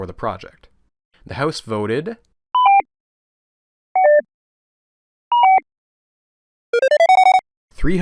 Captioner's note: suspenseful electronic beeps